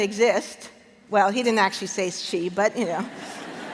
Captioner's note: laughter